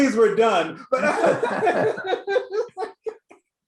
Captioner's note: laughs